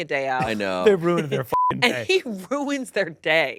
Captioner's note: beeps